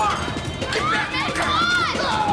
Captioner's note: clamoring voices